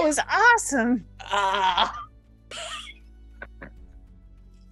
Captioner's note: Quincy groans